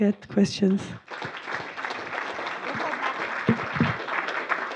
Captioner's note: applause